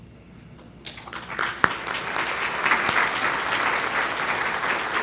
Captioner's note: audience applauds